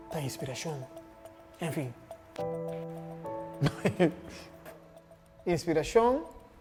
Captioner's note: laughter